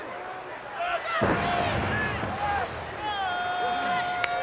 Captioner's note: ground thudding